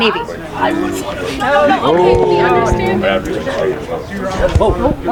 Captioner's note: audience exclaiming